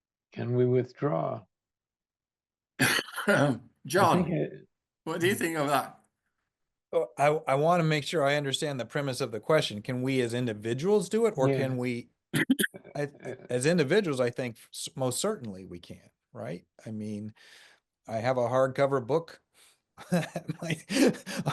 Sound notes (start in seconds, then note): 2.7 laughing; 20.1 laughs